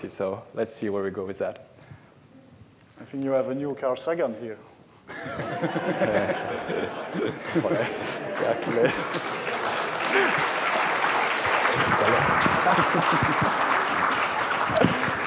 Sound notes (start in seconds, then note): 5.1 laughter; 7.2 applause